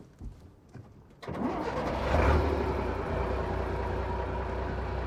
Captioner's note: bus starting up